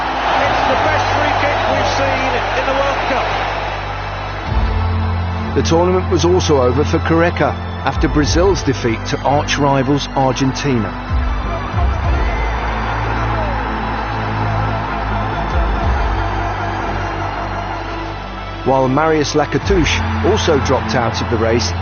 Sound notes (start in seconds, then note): 12.8 crowd cheering